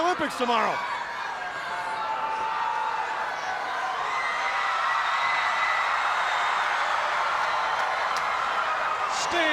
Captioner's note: crowd cheering